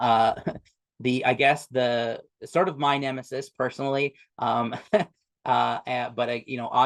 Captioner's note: chuckles